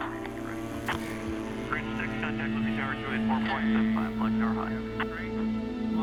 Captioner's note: radio chatter